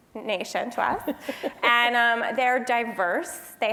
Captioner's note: laugh